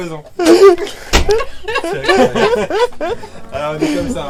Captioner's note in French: rires